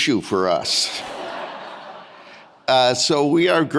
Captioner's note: audience laughing